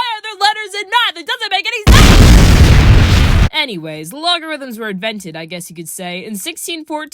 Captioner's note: explosion